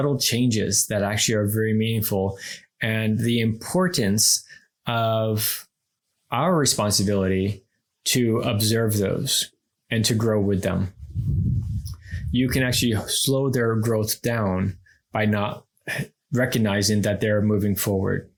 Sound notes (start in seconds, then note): none